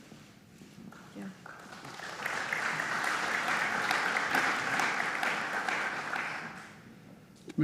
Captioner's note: applause